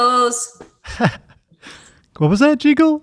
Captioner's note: laughing